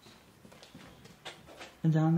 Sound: wheel squeaks

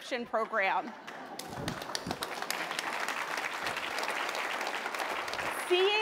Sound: applause

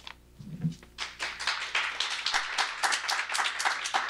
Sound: applause

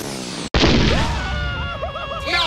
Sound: stretched inflating noises; kaboom; Scratch and Grounder screaming

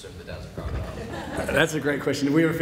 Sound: audience laughs

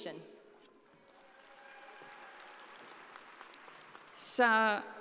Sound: audience applauding

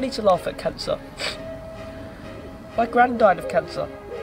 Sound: sniffling

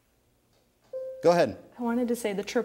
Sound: bell dings

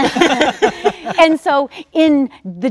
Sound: all laughing

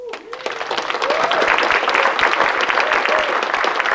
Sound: audience clapping

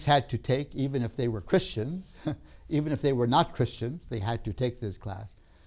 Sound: laughs

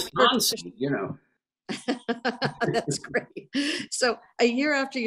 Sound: laughs

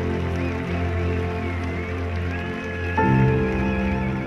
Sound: cheering

